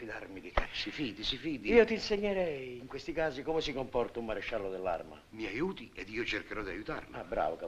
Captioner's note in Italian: ridendo